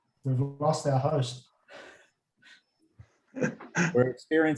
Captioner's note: laughs